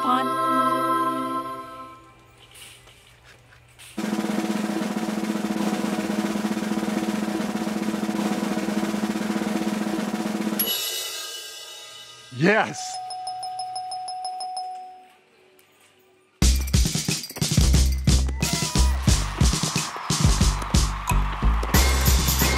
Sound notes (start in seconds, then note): 0.0 angelic music; 4.0 drum rolling; 10.6 cymbals crashing; 13.3 buzzer beeping; 16.4 upbeat music; 18.2 crowd clapping